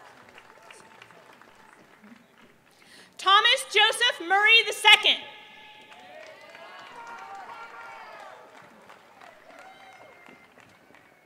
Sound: applause

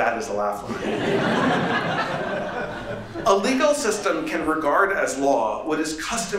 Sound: laughter

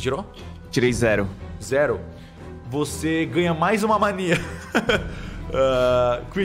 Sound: laughs

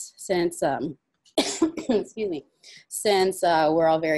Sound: coughs

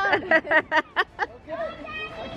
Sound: laughs

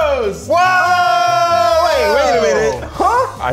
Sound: all exclaiming

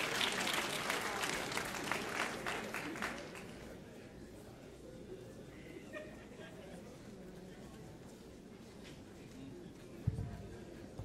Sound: applause

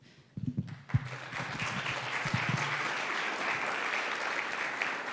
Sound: audience applauds

